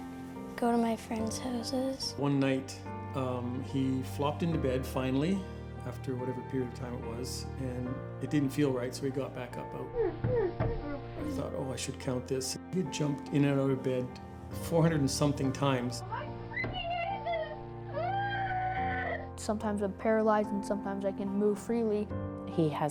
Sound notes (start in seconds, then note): 10.2 grunting; 17.9 screams